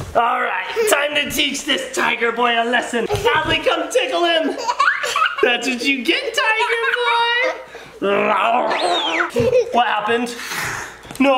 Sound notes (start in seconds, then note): 6.2 giggling; 8.1 screams; 8.3 growling